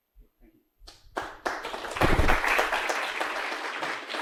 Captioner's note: applause